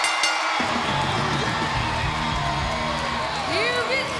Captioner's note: bell ringing